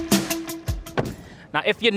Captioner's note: door closes